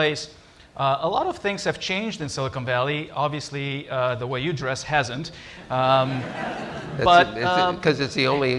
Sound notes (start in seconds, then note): 5.6 laughter